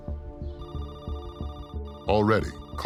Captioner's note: phone ringing